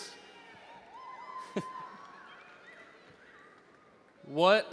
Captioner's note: audience cheers